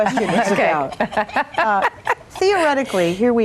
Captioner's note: laughing